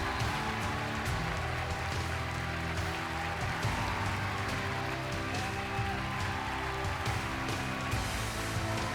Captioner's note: cheers and applause